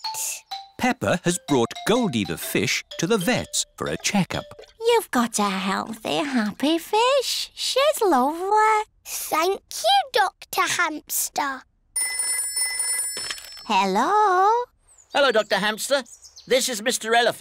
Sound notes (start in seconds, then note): 11.9 phone rings